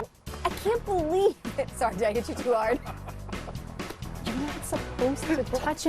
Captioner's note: laughs